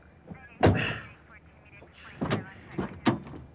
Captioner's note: chattering over police radio